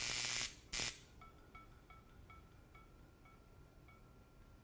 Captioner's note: machine whirring; ball tapping